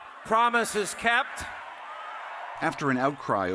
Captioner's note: cheering and applause